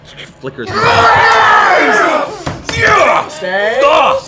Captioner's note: cheering